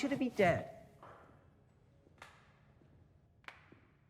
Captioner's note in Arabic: تصفيق